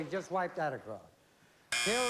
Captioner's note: buzz